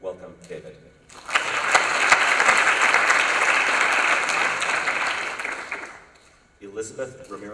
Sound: applause

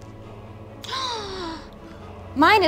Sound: gasps

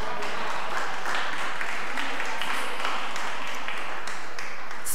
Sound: audience applause

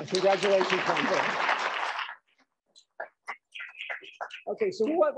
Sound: applause

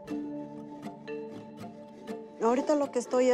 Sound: speaking spanish

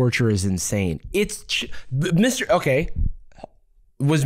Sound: stammering

